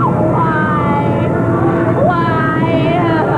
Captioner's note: sobbing